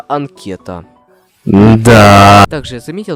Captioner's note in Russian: звук разочарования